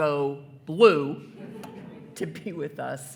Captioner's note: attendees laughing